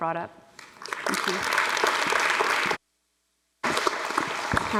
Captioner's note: audience applauds